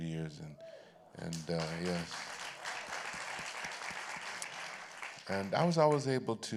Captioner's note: applause